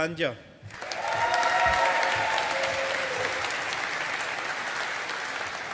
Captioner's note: audience applauding